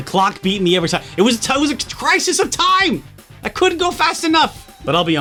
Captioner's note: stammering